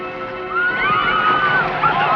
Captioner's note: screaming